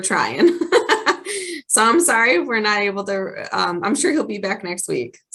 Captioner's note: laughs